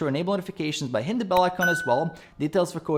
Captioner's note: bell ringing